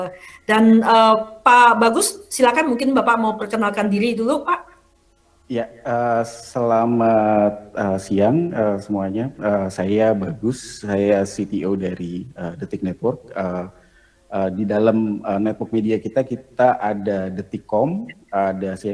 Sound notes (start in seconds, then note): 9.9 non-english speech